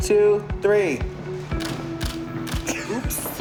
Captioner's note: camera clicks; giggles